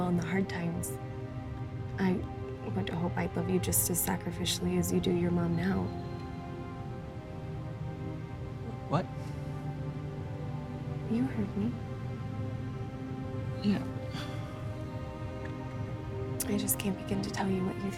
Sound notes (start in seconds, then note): 14.0 sighs